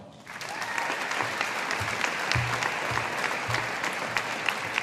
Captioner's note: audience applauding